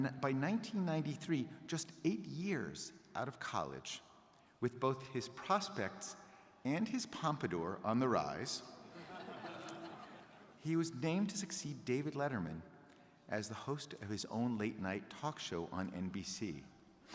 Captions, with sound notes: By 1993, just eight years out of college, with both his prospects and his pompadour on the rise, (crowd laughing) he was named to succeed David Letterman as the host of his own late night talk show on NBC.